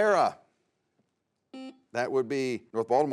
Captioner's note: buzzer sounds